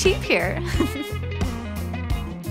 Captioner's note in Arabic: ضحكة مكتومة